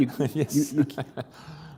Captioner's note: laughter